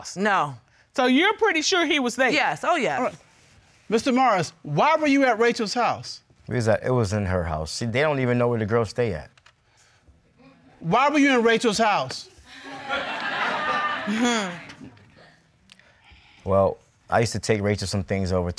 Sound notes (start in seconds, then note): 12.5 audience laughing